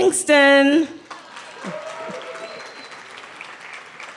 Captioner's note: cheering